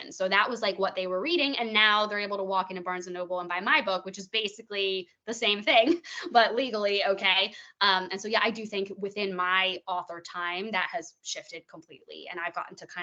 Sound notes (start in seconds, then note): 5.9 chuckling